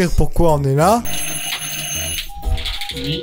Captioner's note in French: sonnerie; porte ouverte